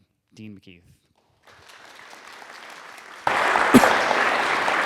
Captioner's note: audience clapping